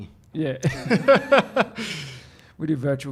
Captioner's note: laughter